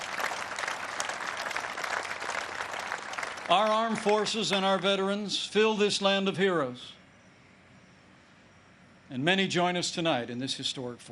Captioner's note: applause